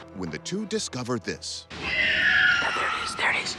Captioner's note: screeching